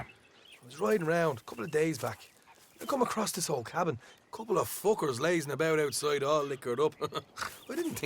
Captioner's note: laughs